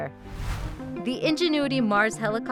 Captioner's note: whooshing